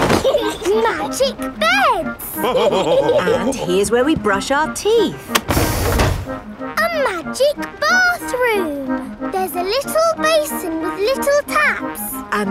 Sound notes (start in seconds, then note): 0.0 laughing; 2.2 all laughing